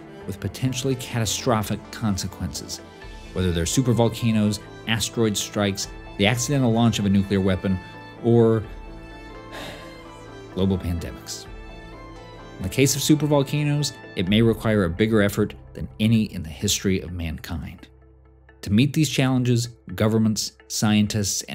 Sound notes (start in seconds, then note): 9.4 sighs